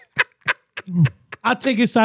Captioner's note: laughing